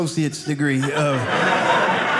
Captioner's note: audience laughing